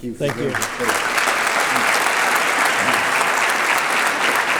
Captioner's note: applause